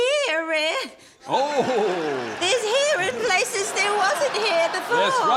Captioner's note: chuckles